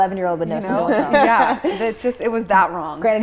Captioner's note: all laughing